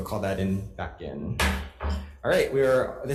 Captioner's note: gavel thuds